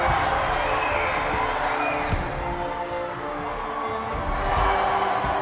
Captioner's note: punch thumps; audience applauding; punches thump; audience applauding